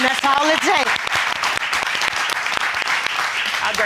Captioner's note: all applauding